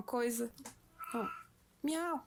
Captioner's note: cat meowing in the background